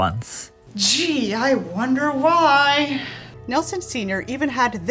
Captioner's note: sarcastically